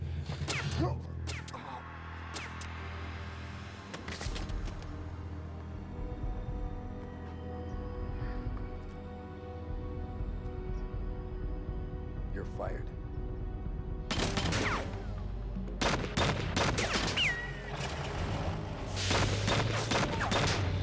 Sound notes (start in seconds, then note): 0.4 gun fires; 4.6 dramatic music; 13.9 dramatic music; 13.9 guns firing